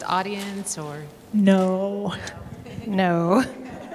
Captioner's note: laughter